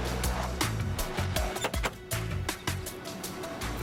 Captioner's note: knocks twice